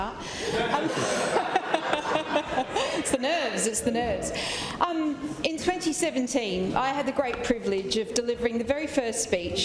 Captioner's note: laughter